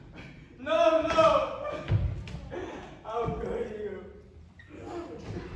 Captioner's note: sobs